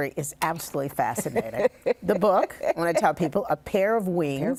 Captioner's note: laughs